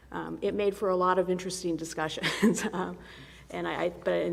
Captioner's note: laughs